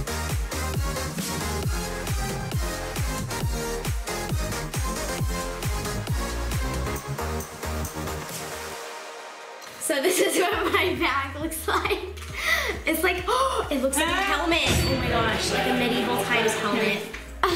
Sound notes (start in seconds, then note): 11.0 laughing; 13.3 dramatic music